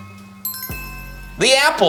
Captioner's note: bells chime